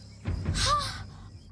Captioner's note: Zoey Gasping